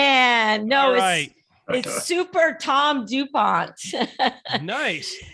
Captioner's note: laughing